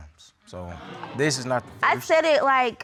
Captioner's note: audience exclaiming